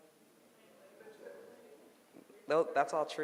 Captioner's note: audience murmurs